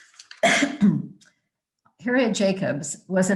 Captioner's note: coughing